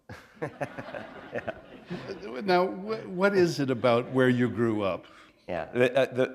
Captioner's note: laughter